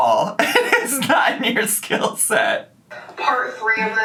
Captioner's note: laughs